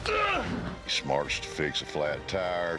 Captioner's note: grunts